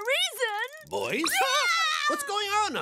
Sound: screaming

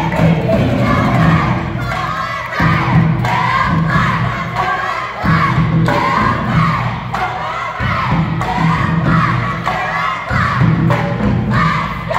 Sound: overlapping chants

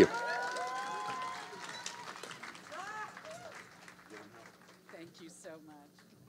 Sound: audience applauding

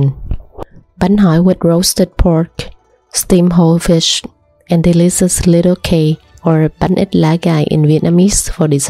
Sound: in Vietnamese

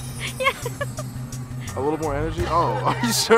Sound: laughing

